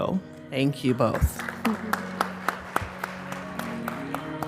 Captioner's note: applause